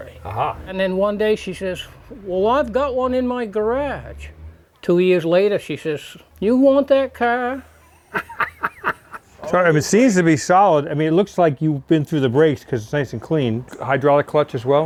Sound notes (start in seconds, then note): 8.1 laughs